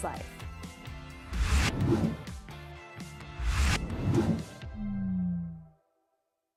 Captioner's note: upbeat music; air whooshing